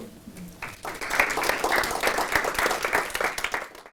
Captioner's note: audience applauding